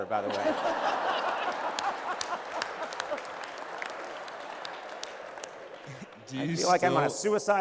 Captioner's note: laughter